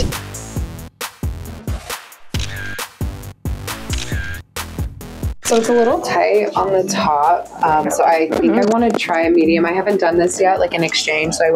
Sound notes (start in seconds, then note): 0.0 upbeat music; 2.3 camera clicking; 5.5 camera clicking